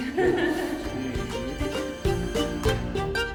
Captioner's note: laughing; lively orchestra music